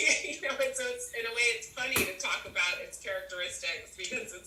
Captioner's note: laughter